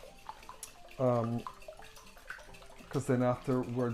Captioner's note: whisking eggs